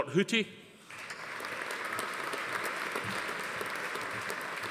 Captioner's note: audience applauding